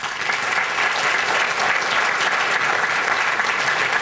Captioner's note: applause